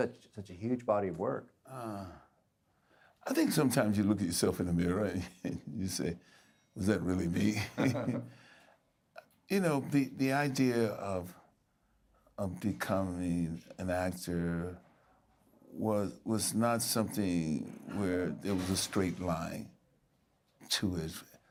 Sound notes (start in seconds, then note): 5.1 chuckling